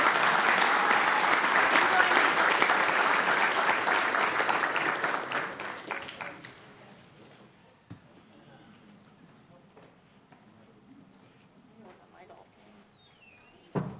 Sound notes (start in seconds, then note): 0.0 applause; 7.8 applause